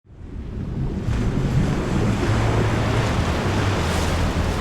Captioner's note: waves rushing; paddling in water